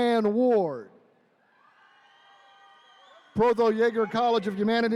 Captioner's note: attendees cheering